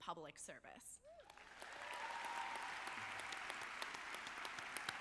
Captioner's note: audience clapping